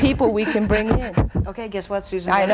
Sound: laughing

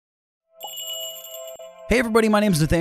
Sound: magical jingle

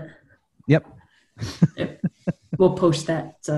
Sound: chuckles

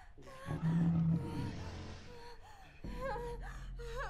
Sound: woman moans

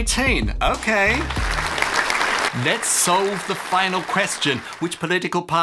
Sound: applause

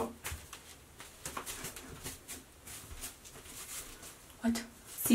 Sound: shuffling footsteps

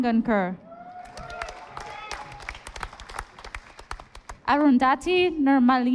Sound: audience applauding

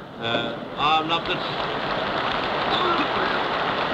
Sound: applause

